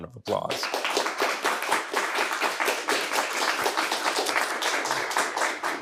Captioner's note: audience and teams applauding